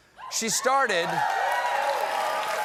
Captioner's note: cheers and applause